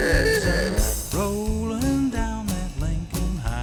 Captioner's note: horn honking